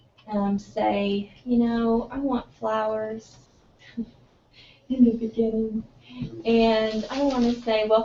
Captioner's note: laugh